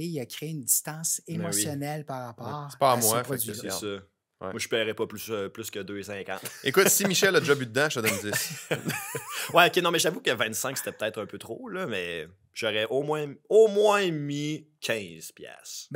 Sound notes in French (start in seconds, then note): 8.0 rires